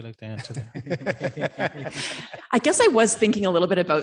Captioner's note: audience laughing